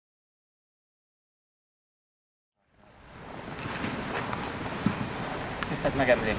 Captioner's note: rainstorm sounds in the background